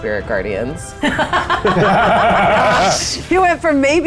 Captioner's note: players laughing